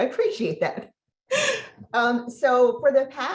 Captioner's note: laughs